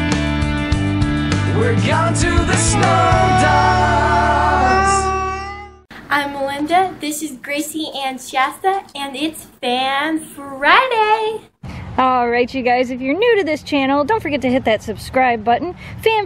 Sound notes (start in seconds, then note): 2.4 huskies howling